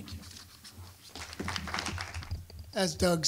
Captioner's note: applause